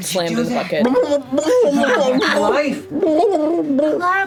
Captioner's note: bubbles